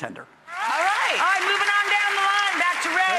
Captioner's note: audience applauds